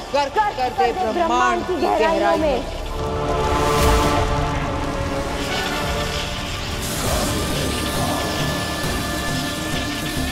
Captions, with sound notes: and trap it in the depth of the Earth.' [fire crackling]